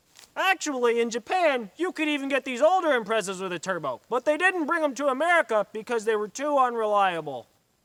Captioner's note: none